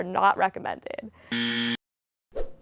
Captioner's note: buzzer